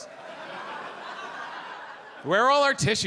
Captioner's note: audience laughs